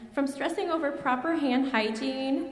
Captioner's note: none